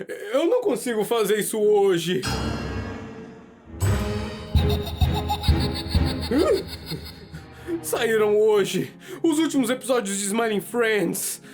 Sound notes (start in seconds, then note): 2.2 suspenseful sound; 4.1 Skull laughing maniacally